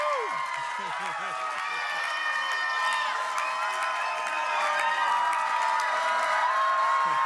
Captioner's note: cheers and applause